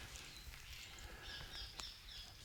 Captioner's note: birds chirping